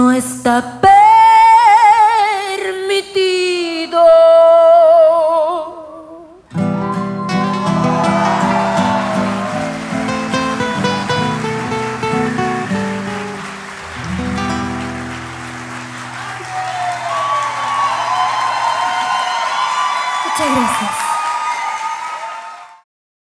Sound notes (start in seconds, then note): 5.8 applause